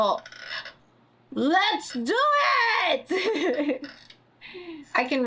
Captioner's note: laughs